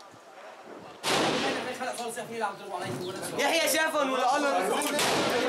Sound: Arabic spoken audio

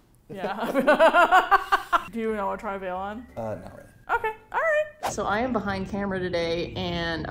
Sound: laughs

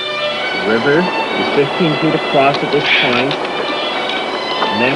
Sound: paper rustles

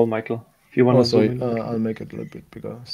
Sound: faintly speaks

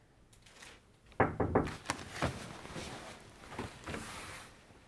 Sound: door knocking

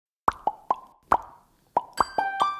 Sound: popping sounds

